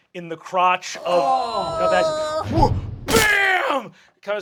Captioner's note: cast groaning